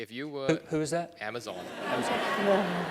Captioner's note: laugh